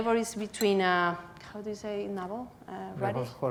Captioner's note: spanish